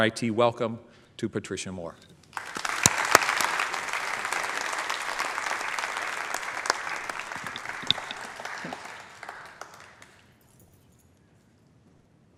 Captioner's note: applause